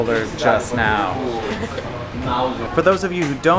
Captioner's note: chuckles